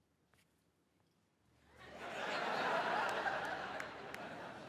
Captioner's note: audience laughs